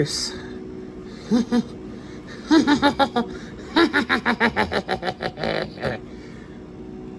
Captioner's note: laughs and giggles